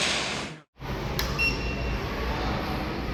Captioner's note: beep